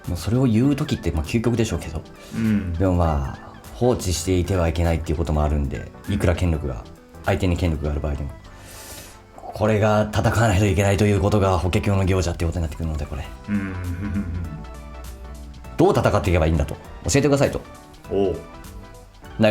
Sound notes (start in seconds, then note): 13.4 laughs